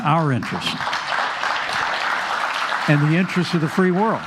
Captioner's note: applause